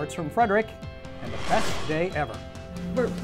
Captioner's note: whooshing